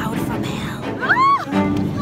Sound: screams

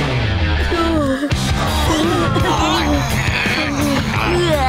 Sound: groaning

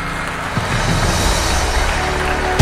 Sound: audience applause

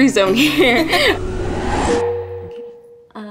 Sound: laughing; transition whooshing; bell dings

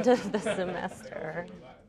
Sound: laughter

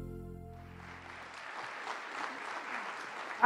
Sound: applause

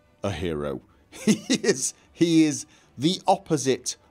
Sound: laughs

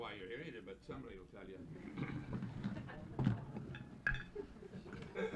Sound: laughter and room noise

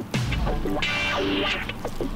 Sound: chewing, tasting

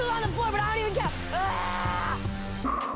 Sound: screaming

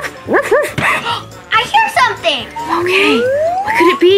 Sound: barking; gasp

